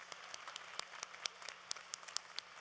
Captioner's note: applause